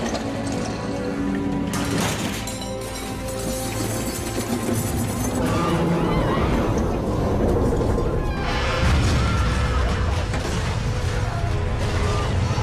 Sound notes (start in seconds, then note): 5.2 people screaming; 8.5 cracking